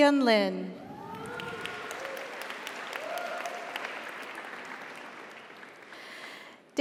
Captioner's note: audience cheers; audience applauds